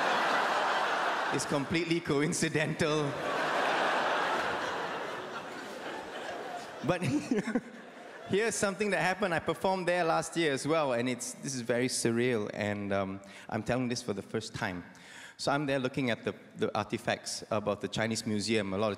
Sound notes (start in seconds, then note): 7.1 laughs